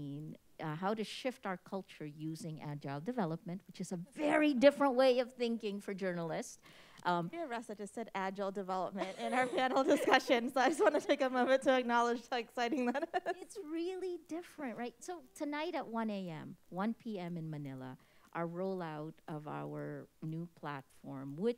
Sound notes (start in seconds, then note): 9.0 all chuckling; 12.6 chuckles